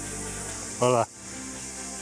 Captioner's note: in Portuguese